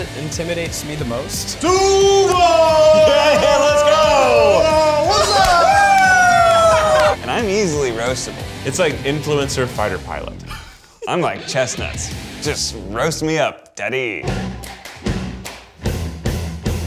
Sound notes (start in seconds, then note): 3.0 laughs; 5.1 group cheers and laughs; 10.8 Zach laughs; 14.1 upbeat music